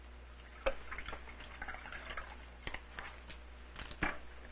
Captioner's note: liquid pouring